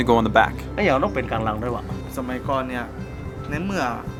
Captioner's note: speaking thai